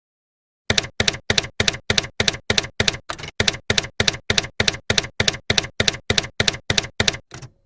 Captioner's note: typewriter keys clacking